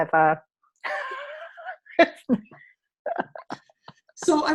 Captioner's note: laughing